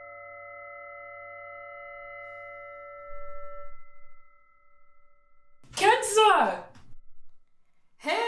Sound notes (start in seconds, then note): 2.6 low humming continues